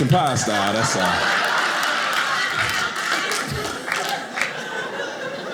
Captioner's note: audience laughing